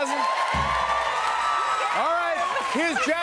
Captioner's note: cheers and applause